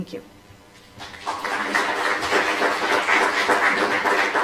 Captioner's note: applause